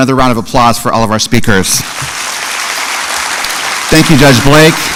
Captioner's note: applause